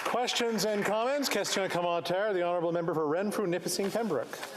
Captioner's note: applause